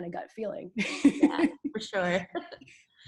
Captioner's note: laughs